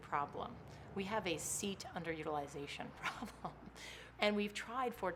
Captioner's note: laughs